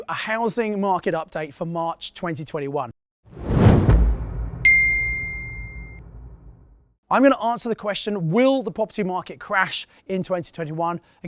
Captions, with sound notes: a housing market update for March, 2021. (air whooshing) (beep) I'm going to answer the question will the property market crash in 2021